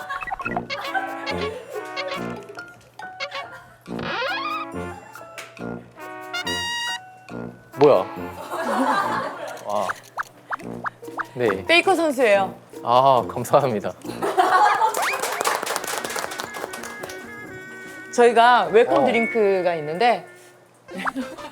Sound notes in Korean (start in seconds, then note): 14.6 셀프 박수